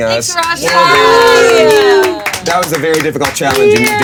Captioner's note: players cheering and clapping